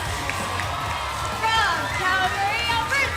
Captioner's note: crowd cheering